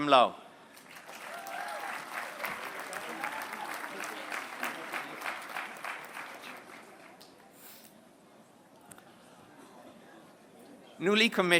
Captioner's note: applause